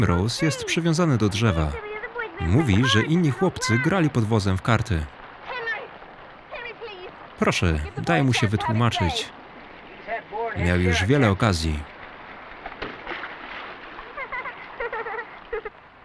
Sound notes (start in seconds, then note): 12.7 splashing; 14.0 laughing